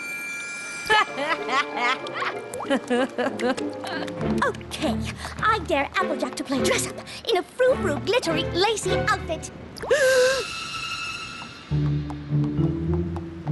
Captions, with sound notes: [ Applejack laughs ] Okay, I dare Applejack to play dress-Up In a froufrou, glittery, lacy outfit. [ Gasps ]